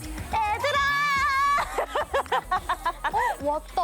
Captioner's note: excited